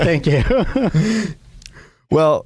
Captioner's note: laughs